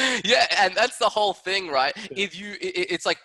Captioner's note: laughing